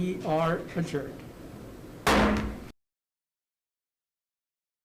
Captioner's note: gavel striking